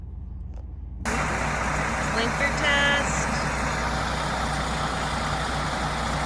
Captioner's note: engine roaring